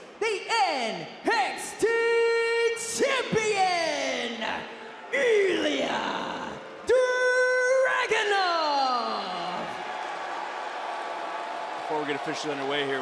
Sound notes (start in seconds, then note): 8.6 crowd boos